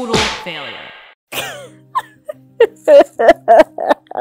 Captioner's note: sobbing while Dramatic music plays